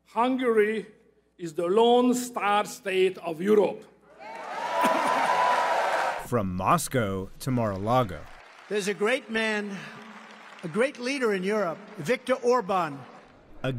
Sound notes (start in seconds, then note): 4.1 cheering and applause